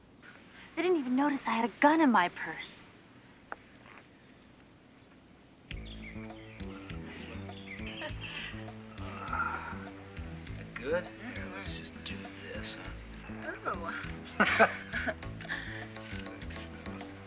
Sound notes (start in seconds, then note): 6.1 music playing on radio; 7.9 giggles